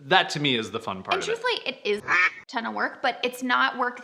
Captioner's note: duck quack